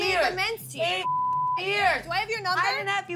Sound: beep

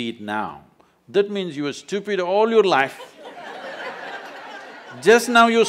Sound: laughter

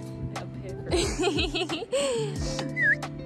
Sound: laughter

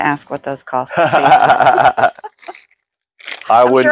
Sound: laughing

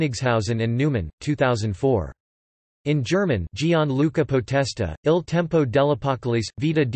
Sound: in German

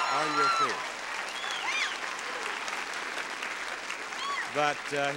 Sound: audience applauds

